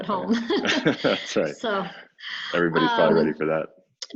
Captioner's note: laughing